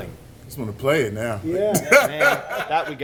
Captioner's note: laughs